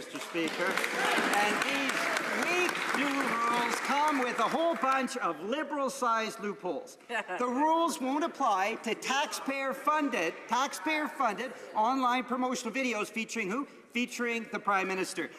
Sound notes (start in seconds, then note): 3.7 some Applause